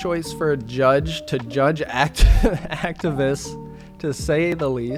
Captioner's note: laughing